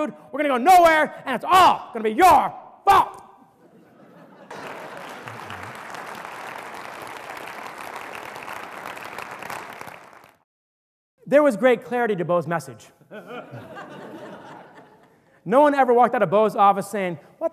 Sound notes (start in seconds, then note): 6.6 audience laughter and applause